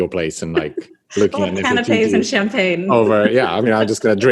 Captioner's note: laughs